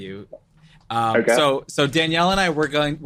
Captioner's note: chuckles